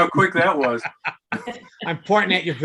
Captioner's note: laughing; laughs